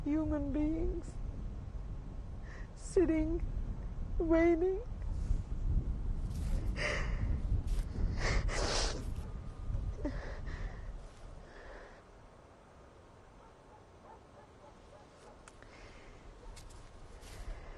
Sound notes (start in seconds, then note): 6.4 sob; 10.0 sighs